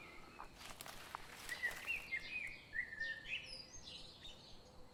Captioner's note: birds chirping; insects chittering